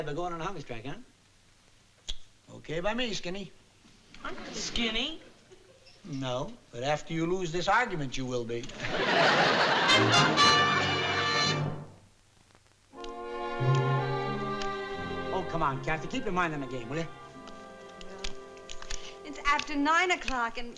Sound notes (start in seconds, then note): 8.7 audience laughing